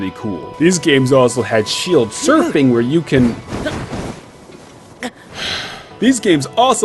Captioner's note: sigh